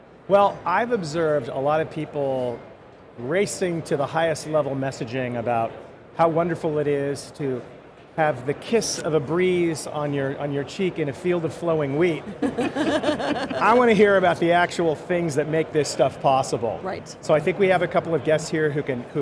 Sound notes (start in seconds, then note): 12.2 laughing